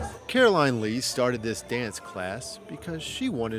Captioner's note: voiceover